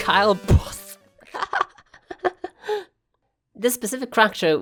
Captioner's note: laughs